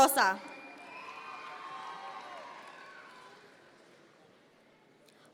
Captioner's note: audience members cheer